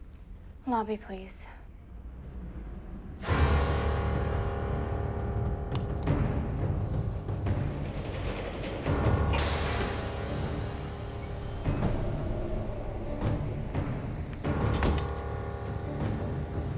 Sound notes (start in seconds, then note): 3.2 menacing music; 7.6 elevator door rattles; 14.4 door thuds